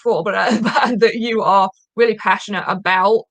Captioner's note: chuckling